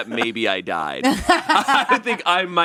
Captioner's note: laughs